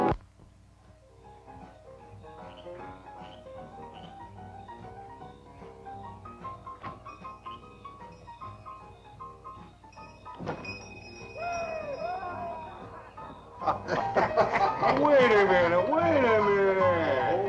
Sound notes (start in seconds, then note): 1.4 upbeat piano music; 6.9 bell rings